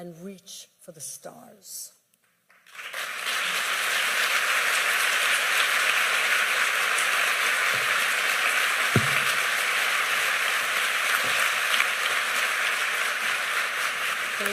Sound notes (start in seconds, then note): 2.4 applause